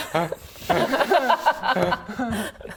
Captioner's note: inclusive laughter